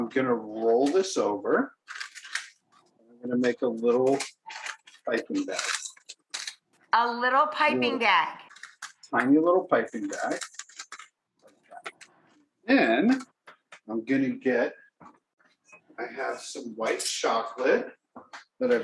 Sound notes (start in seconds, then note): none